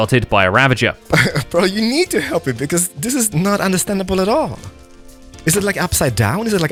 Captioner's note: laughs